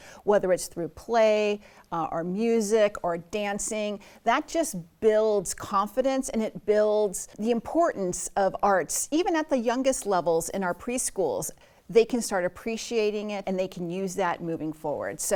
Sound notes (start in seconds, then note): none